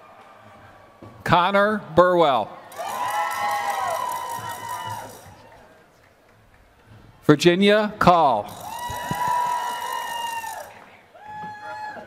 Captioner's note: applause